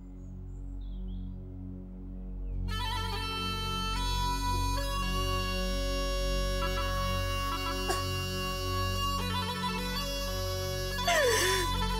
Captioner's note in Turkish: Ağlıyor